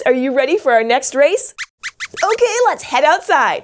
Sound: squeaks squeaks

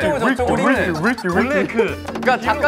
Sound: haha

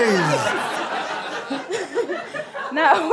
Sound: audience laughter

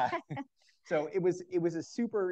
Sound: all laugh

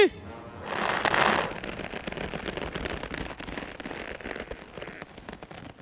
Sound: squeaking leather

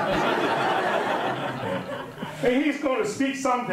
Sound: audience laughing

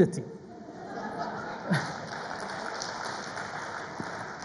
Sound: audience laughs

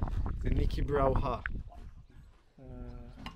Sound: speaking foreign language

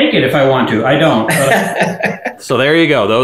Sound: laughing

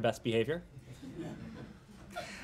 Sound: laughter

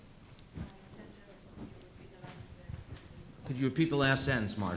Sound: quiet chatter

